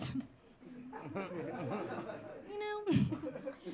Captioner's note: audience laughing